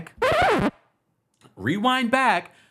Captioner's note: rewind sound